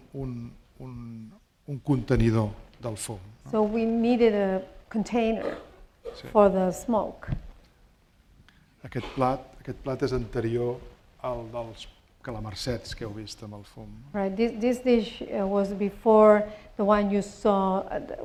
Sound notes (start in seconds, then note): 9.3 speaking spanish